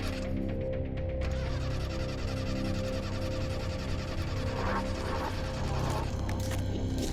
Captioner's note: engine trying to turn over